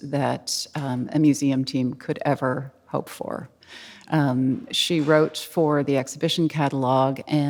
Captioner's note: none